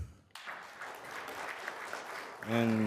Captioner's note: audience clapping